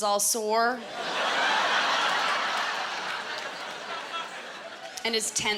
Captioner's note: laughter